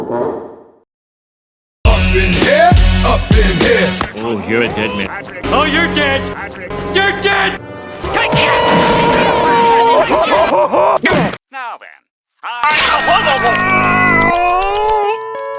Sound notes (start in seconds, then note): 8.1 Patrick Screams; 12.6 Squidward Screams In Pain